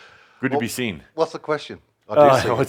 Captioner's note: chuckles